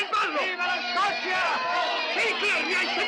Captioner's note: yelling